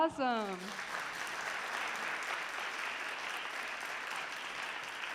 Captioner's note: audience applauding